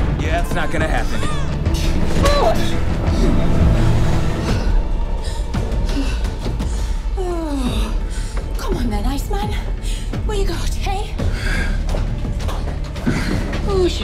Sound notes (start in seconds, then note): 2.8 breathing heavily; 11.3 panting